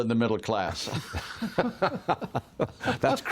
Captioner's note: laughter